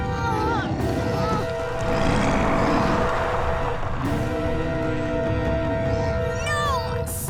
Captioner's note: grunting; Appa grunting